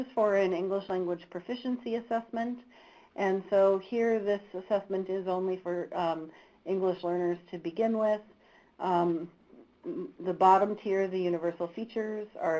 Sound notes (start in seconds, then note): none